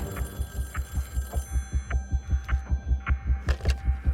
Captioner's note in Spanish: Suena el teléfono